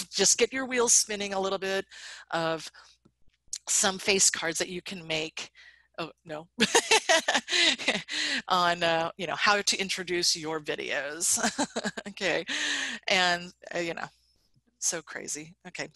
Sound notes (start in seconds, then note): 7.2 laughs